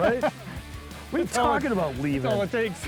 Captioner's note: fishermen chuckling